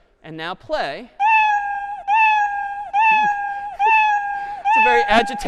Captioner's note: cat meowing repeatedly